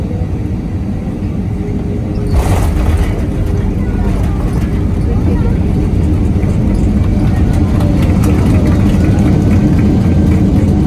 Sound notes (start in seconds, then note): 6.2 applauding